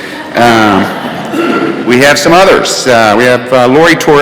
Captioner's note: laughter